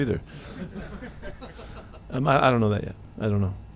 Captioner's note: reporters laughing